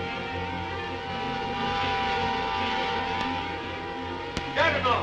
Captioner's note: suspenseful music ends; The Juggernaut whirs